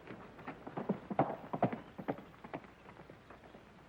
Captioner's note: hooves pounding